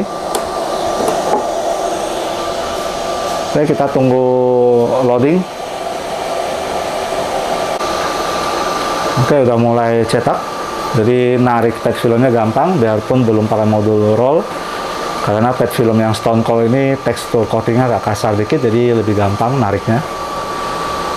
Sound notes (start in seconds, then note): 0.2 vacuum sound; 7.7 printer machine sound; 20.4 printer machine sound